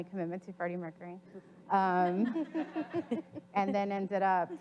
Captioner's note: audience laughs